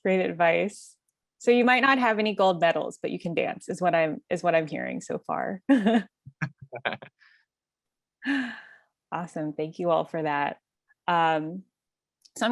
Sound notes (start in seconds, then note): 6.4 laugh